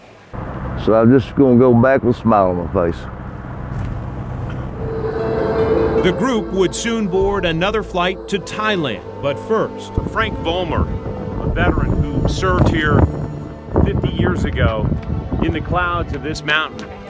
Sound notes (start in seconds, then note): 3.2 car motor running; 5.0 plane engine whirring